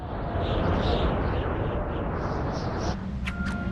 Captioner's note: rushing wind